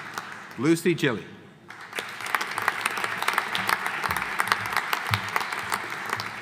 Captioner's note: audience applauding